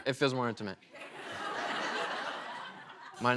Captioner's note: laughter